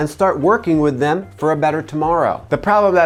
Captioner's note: none